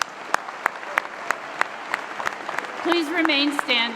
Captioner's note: applause